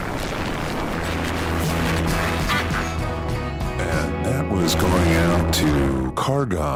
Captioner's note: radio static fades into music